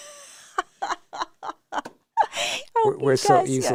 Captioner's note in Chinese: 大笑中